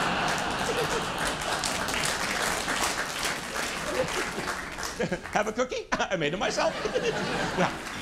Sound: laughter and applause

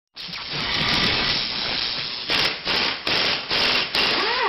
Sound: workshop noise

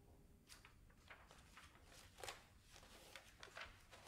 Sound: pages rustling

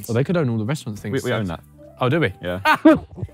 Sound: laughing

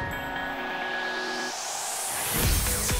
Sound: crowd cheering

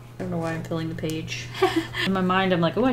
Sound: laughs

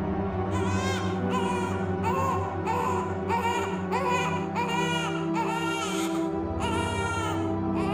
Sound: baby crying

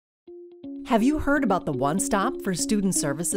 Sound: voiceover

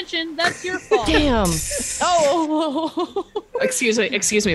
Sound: laugh

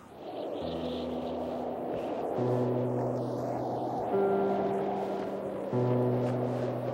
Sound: wind whistling; somber music

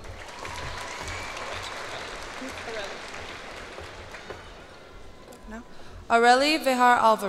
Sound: cheers and applause

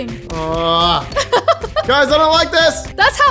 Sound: laughs

